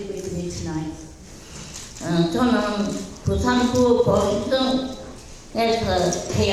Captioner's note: speaking in foreign language